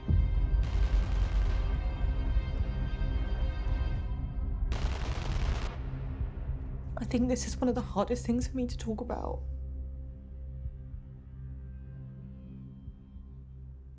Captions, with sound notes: [distant gun fires rapidly] [suspenseful music continues] - I think this is one of the hardest things for me to talk about.